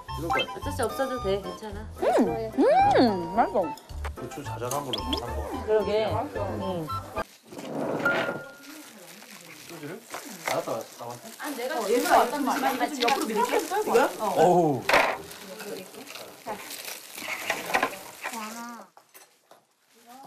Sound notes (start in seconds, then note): 4.7 chomp; 12.9 Crunch